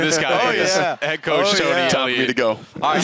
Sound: indistinct chatter

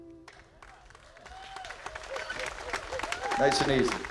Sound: audience cheering and applauding

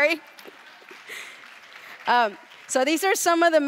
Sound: clapping

